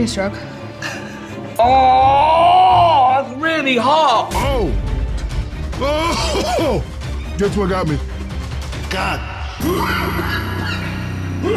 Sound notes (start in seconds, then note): 1.6 screaming; 9.6 coughing